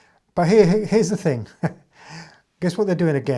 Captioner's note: chuckles